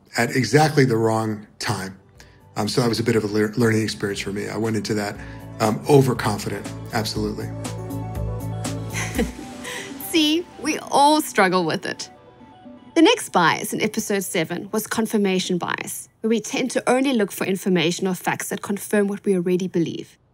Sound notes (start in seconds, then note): 8.9 laughs